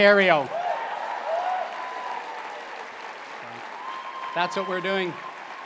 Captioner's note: applause and cheering